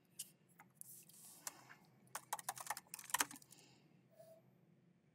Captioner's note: keyboard clacking